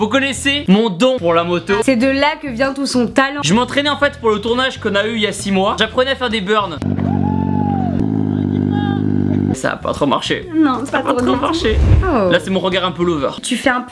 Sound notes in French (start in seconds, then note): 6.7 Bruit de Moto